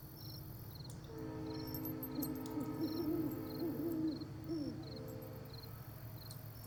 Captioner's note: distant train whistle blows; owl hoots